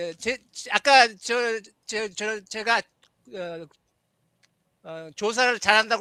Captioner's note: non-english speech